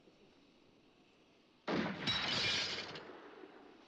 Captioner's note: gun fires